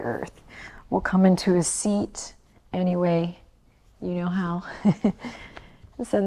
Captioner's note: chuckles